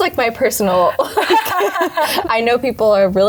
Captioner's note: both laughing